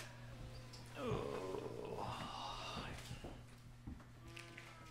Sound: groaning

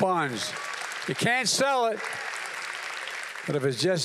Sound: applause

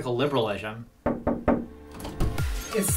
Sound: knocking

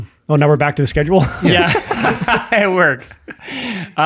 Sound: laughs

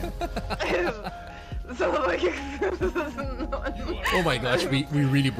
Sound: chuckles; everybody is laughing

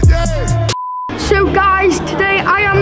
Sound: beep

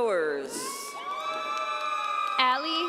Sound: audience cheering

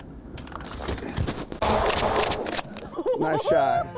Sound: shooting

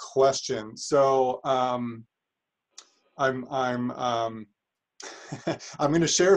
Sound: chuckles

